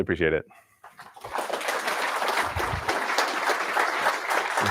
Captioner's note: applause